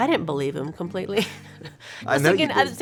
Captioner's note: laughs